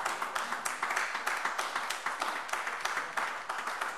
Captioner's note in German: Beifall AfD